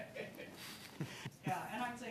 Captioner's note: laughter